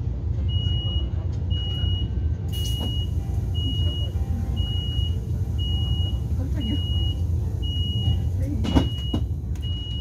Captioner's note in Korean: 출입문 닫힘